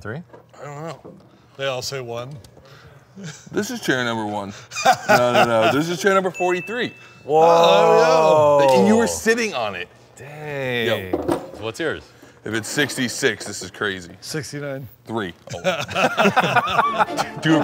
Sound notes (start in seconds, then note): 4.7 Ken laughing; 7.3 group exclaiming; 15.4 all laughing